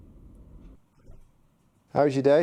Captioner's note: door closes